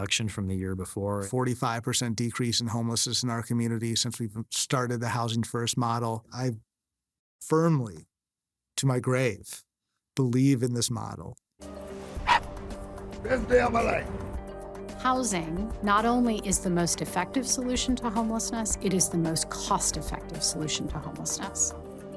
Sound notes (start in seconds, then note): 12.2 puppy barks; 12.8 bright music